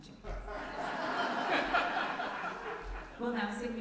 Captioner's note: loud laughter from congregation